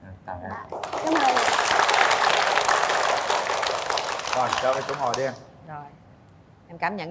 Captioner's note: applause